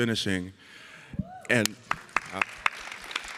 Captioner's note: audience cheering